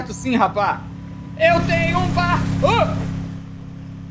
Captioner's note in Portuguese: felipe, cantarolando